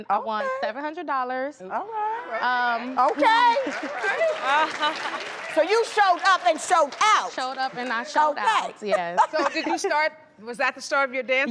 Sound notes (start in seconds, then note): 2.7 crowd applauding; 9.7 laughing